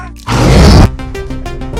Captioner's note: Demogorgon roars